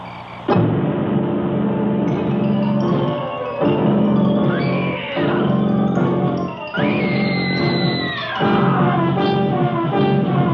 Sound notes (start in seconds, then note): 4.4 screams